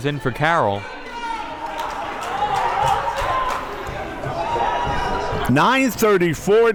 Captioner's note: crowd members cheering